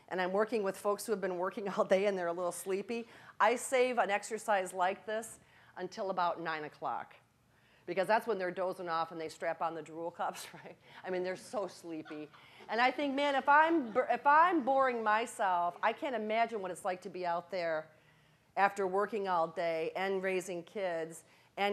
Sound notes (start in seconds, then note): 12.0 laughing